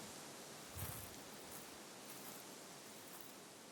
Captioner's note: foot steps crunching in leaves